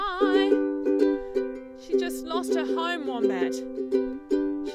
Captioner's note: speaks